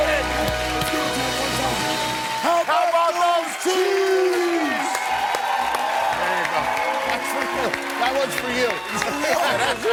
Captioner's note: cheers and applause